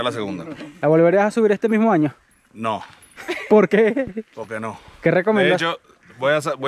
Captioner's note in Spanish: risas